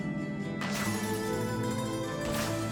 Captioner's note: gunfire